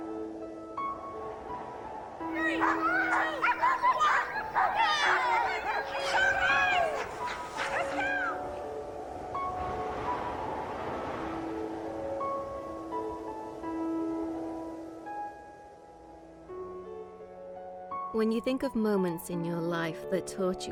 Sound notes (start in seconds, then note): 2.3 barking; 8.9 wind howling